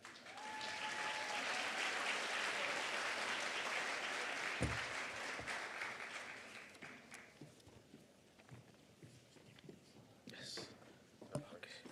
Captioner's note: applause